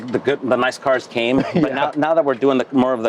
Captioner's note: laughs